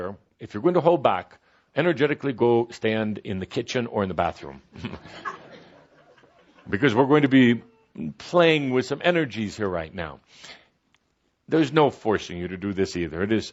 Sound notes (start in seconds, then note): 4.8 some laughter